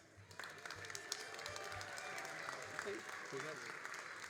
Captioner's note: all applauding